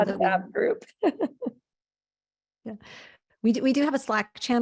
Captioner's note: chuckling